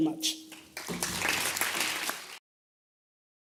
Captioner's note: applause